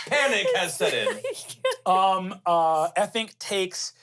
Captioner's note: laughs